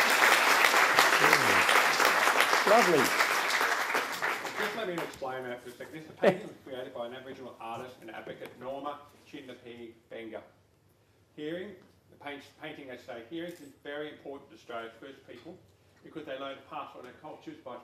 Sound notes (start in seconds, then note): 4.7 audience Applause